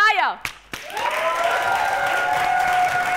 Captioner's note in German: Applaus